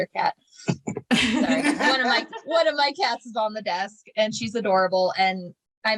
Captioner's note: laughter